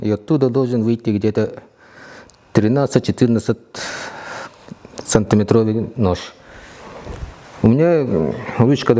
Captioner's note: snorts